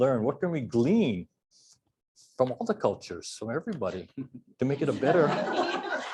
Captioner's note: laughter